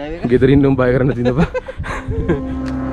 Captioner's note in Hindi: हंसते हुए